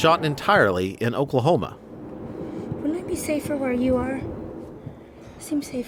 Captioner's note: wind howling